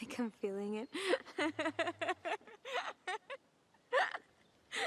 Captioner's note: both laughing